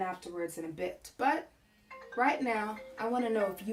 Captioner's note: phone rings